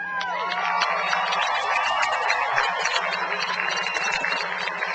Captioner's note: cheering and applause